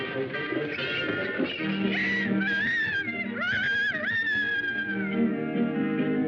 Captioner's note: rooster crowing